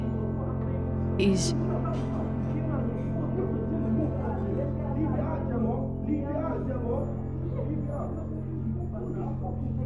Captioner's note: faint sound of male voice angrily shouting “leave it out gemma”